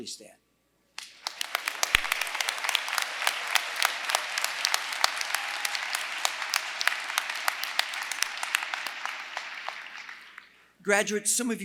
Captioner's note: applause